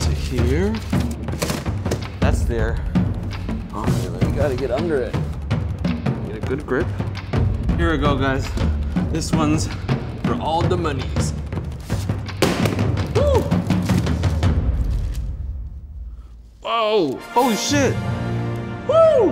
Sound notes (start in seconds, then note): 12.2 tray clatters; 16.7 triumphant music